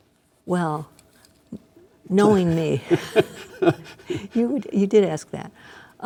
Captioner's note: laughing